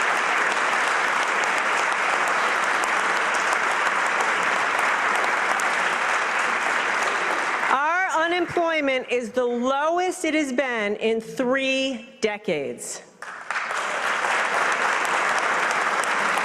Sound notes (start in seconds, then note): 3.0 applause